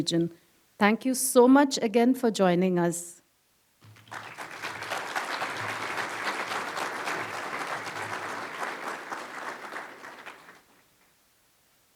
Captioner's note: applause